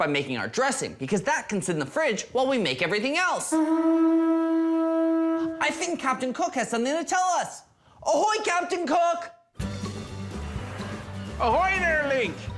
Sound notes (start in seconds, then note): 3.4 horn